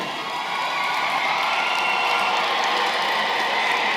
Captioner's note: cheering & applause